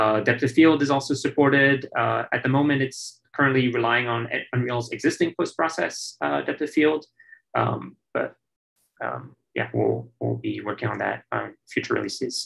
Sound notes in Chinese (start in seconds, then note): none